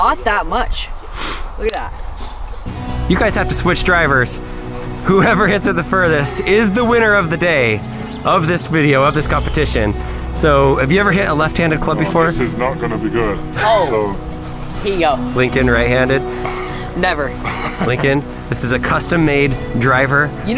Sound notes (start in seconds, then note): 17.4 laughing